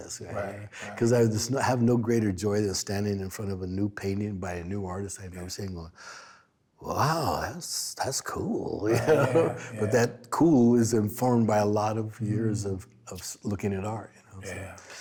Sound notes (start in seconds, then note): 8.8 they laugh